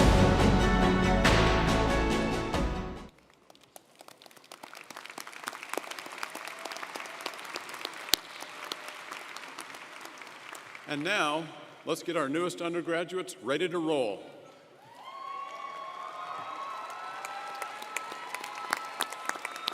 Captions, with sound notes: (upbeat music) (audience applauding) - And now, let's get our newest undergraduates ready to roll. (audience cheering & applauding)